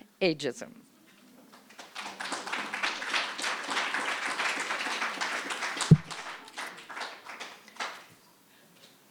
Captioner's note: applause